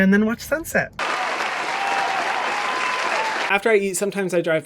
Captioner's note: crowd claps and cheers